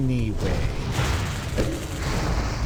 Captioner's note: gun fires